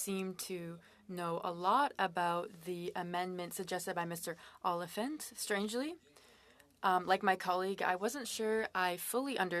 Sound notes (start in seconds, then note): 2.8 speaking French